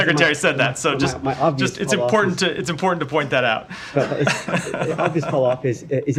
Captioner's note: laughter